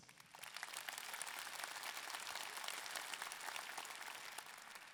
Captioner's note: audience clapping